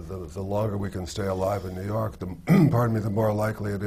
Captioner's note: clears his throat